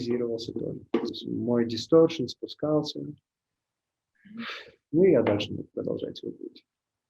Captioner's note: distortion